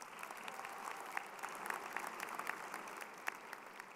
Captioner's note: crowd applauding